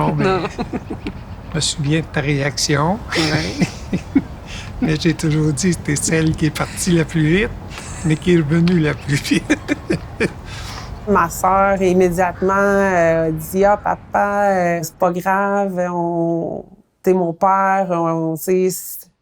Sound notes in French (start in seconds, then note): 3.0 rires nerveux; 10.4 rire